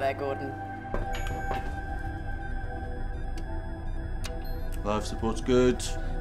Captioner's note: switches pinging